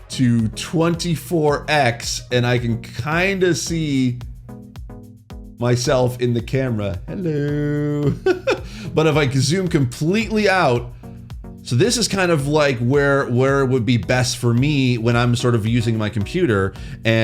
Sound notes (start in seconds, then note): 7.2 giggles